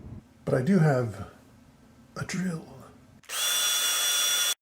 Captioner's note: drill noise